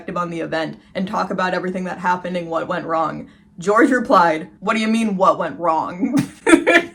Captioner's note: irritated voice; laughing